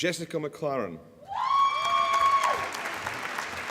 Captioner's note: applause